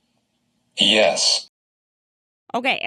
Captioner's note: voiceover